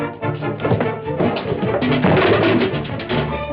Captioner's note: table clatters